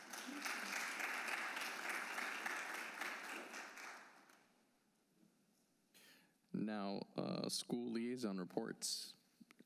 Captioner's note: applause